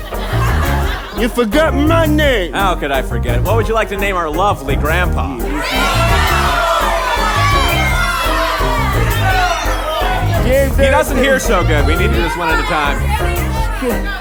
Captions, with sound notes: You forgot my name. How could I forget. What would you like to name our lovely Grandpa? [Lots of yelling from the audience] He doesn't hear so good, we need to do this one at a time